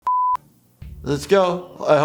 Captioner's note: beep